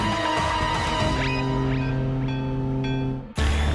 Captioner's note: boat horn, bells clanging